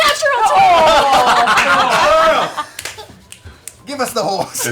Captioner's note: shouting